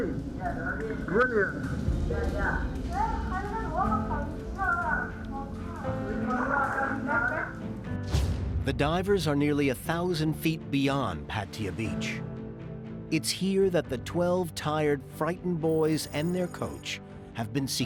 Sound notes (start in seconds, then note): 2.8 kids chattering